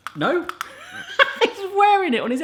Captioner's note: laughing